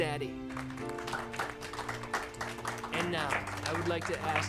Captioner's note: applauding